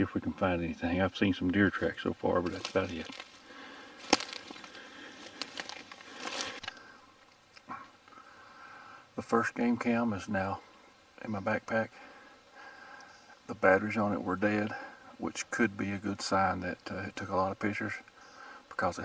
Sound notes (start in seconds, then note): 3.9 twigs snapping